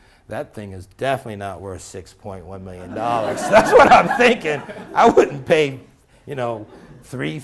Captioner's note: laughter